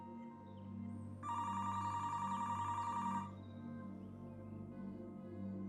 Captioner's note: phone ringing